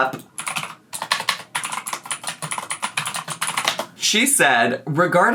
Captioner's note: keyboard keys clacking